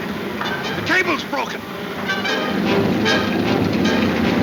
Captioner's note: gears roaring